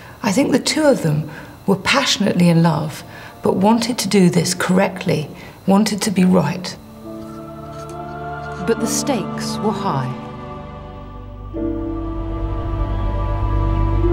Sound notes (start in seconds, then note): 6.9 slow dramatic music; 7.7 pen scribbles